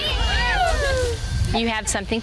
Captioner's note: women cheering